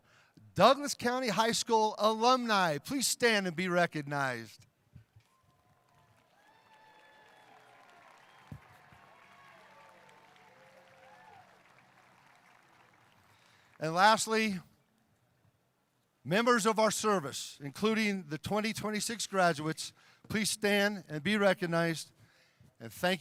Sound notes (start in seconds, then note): 8.3 cheering